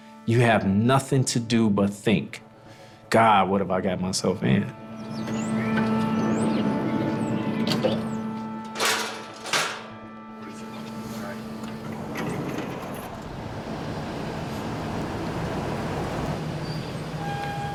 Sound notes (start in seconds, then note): 6.2 ambient music; 9.3 gate clanking; 14.0 car engine roaring